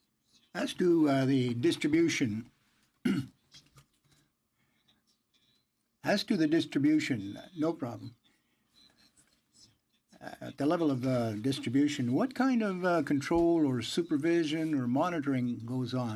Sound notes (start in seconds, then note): 4.0 speaking in French